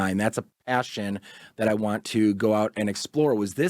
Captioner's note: none